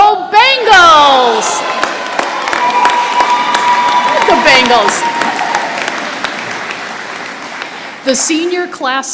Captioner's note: applause and cheers